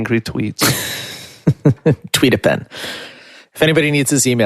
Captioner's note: laughing